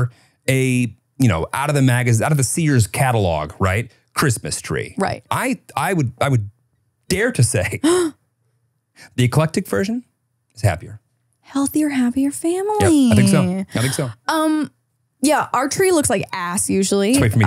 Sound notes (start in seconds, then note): 7.8 gasps